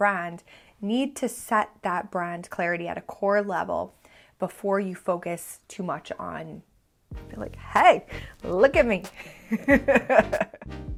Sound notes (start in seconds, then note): 9.4 laughs